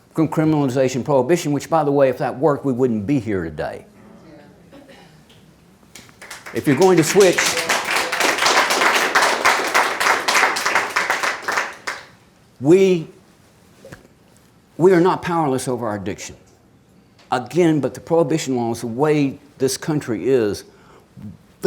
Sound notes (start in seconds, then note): 5.9 audience claps